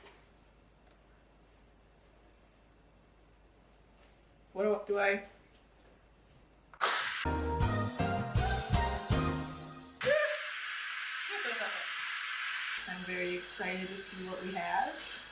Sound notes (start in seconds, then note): 6.7 steam hissing; 10.0 more steam hissing